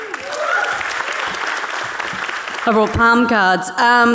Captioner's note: audience cheering